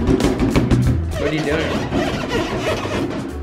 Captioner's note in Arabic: علامة صرير